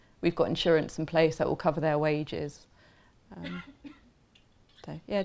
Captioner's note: coughing